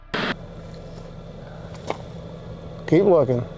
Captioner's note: screen buzzing